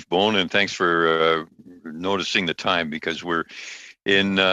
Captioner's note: speaking alternate language